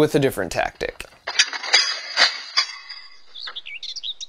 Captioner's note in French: cliquetis de mangeoire à oiseaux; chants d'oiseaux